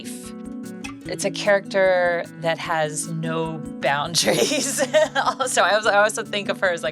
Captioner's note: laughs